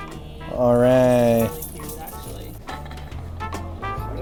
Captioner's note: chuckling